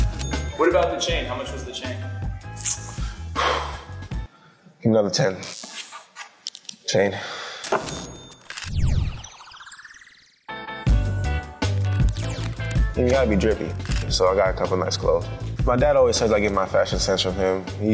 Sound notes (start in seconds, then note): 2.7 exhales